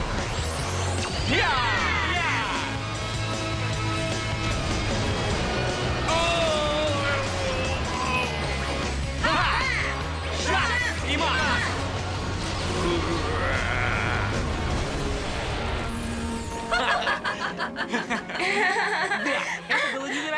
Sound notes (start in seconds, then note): 16.6 laughter